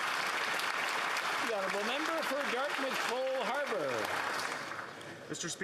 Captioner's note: some Applause